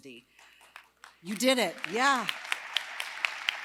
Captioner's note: applause